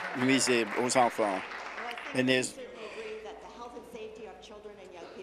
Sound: applause

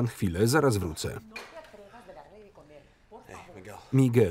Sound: woman speaking in Spanish

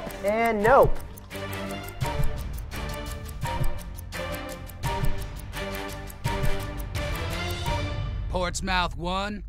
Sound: clock ticking

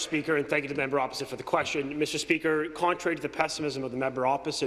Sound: some applause

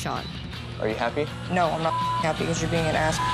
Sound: beep

